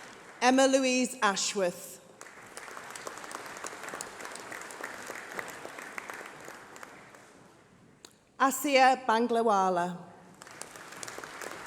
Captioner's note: applause